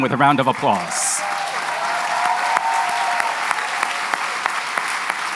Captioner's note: applause